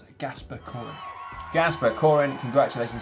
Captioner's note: audience cheers